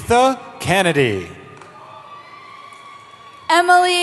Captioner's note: cheering